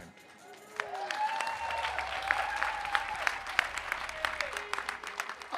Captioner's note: audience cheering and applauding